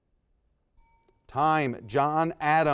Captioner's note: bell rings